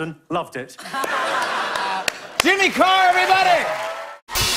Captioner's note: laughter; cheers and applause